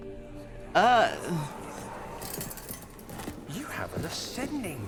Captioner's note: more whispers